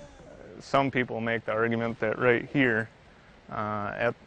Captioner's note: voiceover